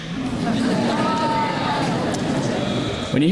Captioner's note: crowd laughs